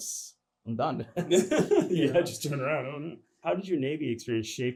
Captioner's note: laughter